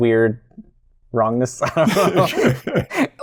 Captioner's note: laughter